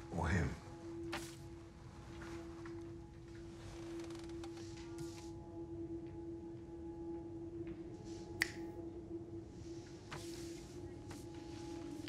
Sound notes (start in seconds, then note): 1.5 suspenseful music; 8.4 snaps fingers